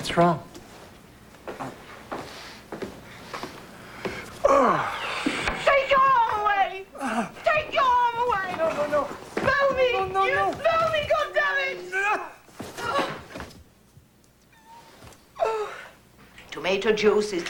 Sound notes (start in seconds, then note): 2.8 sniffing; 7.0 grunt; 13.3 gasp/grunt; 15.3 sobbing